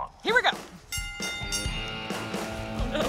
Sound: bell dinging; energetic music

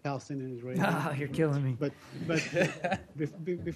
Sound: laughter

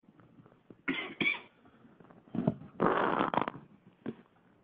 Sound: coughing

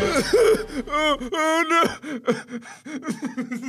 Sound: Mark cries with laughter

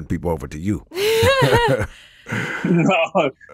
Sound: laughing

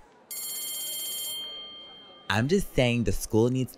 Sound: bell rings

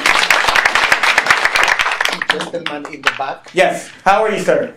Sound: clapping

